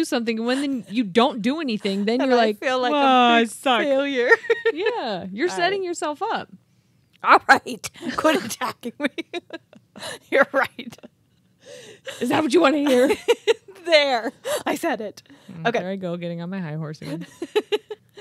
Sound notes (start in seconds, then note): 3.9 murmurs; 4.4 chuckles; 8.8 chuckling